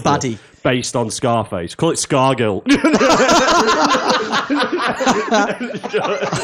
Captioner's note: laughter